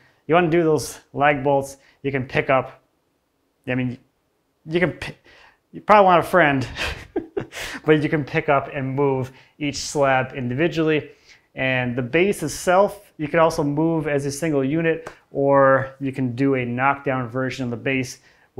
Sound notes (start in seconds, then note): 6.6 laughs